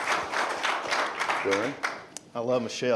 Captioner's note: applause